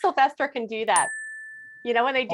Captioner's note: ding!